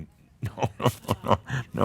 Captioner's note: Adamus chuckles